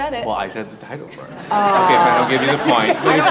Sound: audience laughs

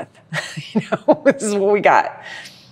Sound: laughs

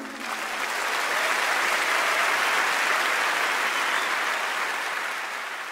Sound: audience applauding

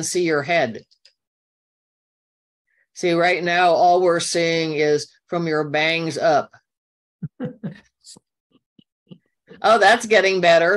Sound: chuckle

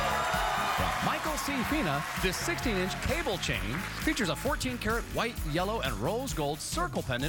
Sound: cheers and applause

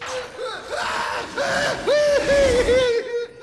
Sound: screaming

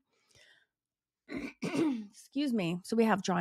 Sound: clears throat

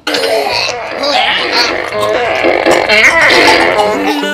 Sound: farting noises; mock choking; upbeat music

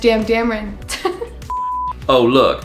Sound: giggles; screen beeps

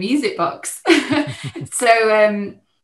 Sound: chuckles

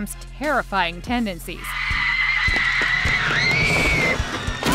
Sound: screaming

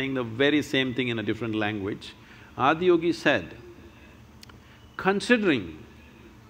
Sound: none

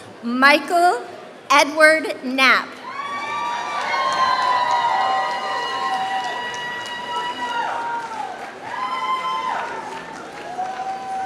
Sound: applause

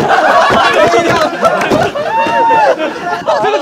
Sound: laughing

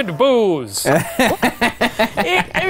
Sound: laughing

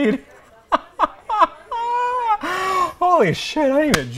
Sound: laughing

